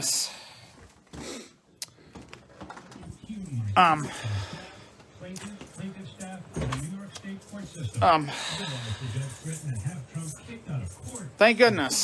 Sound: TV plays in background

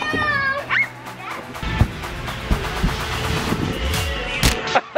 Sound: screaming

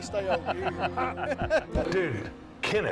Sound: laughing

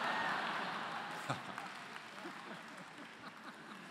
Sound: laughter

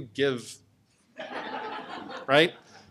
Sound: laughter

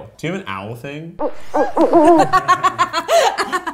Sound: owl hooting; laughing

